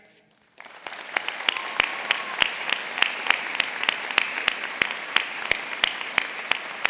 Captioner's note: audience applauding; audience cheering